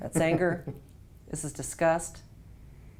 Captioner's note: laugh